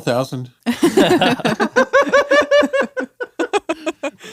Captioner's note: laughs